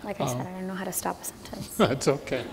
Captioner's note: laughter